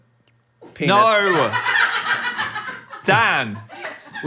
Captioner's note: people laughing